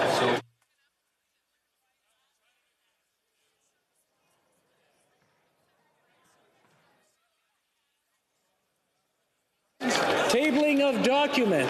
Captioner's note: some Applause